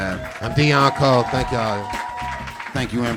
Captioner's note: audience cheering